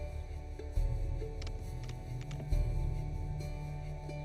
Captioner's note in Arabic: موسيقى متوترة; نقرات مفاتيح لوحة المفاتيح; موسيقى متوترة